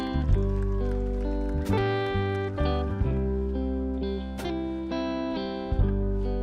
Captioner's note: audience clapping and cheering; soothing music continues